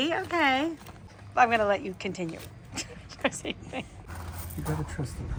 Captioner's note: laughs